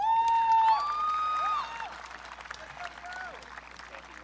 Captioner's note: audience cheering